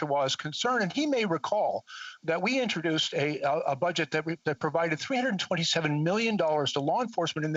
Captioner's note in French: voix de l'interprète